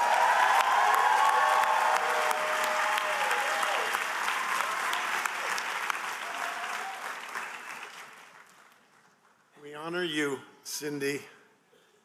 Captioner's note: applause